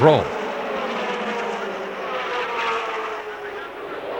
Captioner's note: engines whine